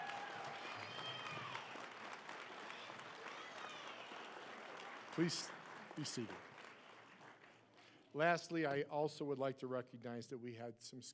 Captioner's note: applause